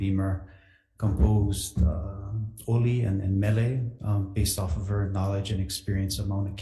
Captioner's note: speaking Hawaiian